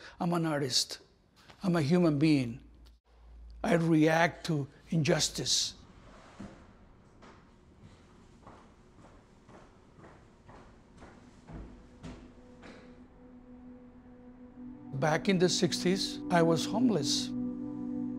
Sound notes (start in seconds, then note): 9.5 footsteps; 18.0 somber music